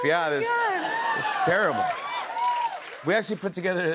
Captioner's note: cheers and applause